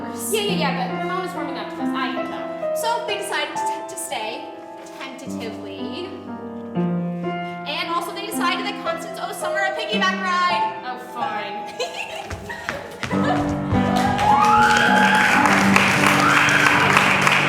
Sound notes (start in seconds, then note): 11.7 giggling; 13.9 applause